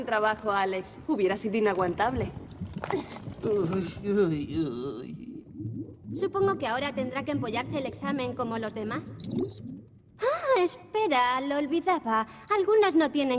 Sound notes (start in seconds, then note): 3.3 moans